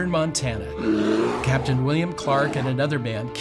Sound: bear growls

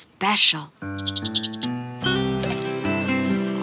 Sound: playful music; squirrel chirping

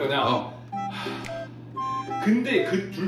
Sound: deep sigh

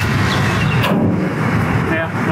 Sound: barrel clangs

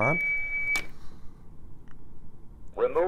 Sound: aed beeps

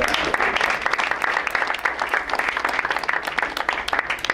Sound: crowd applauds

